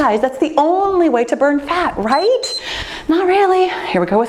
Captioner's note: timer beeps